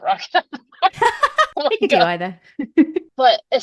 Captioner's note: laughing